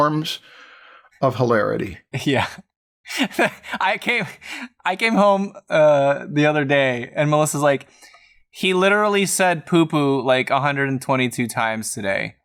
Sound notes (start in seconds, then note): 3.1 laughter